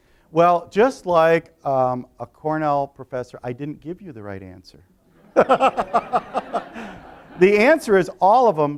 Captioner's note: laughter